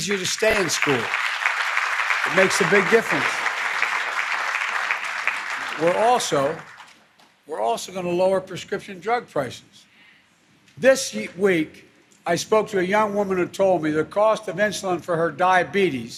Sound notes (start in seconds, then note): 5.7 applause